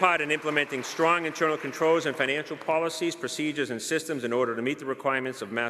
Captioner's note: applause